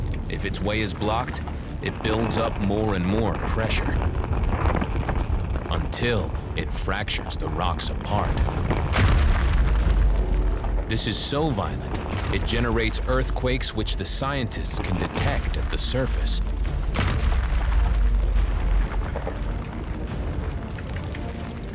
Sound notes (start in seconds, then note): 8.6 explosion roars, rock crumbling; 17.9 rocks splitting, magma rumbling